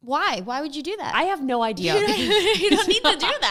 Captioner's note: laughs